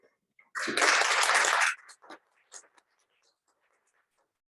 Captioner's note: applause